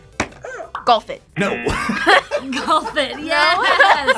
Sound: laughs; buzzer barks; laughs

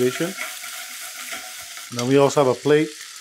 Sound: Spam sizzling

